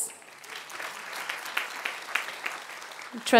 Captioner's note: applause